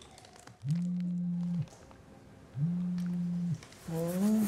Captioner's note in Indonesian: telepon bergetar